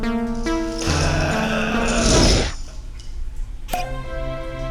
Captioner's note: zombie growls; cork pops